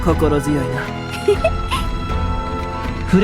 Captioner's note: giggle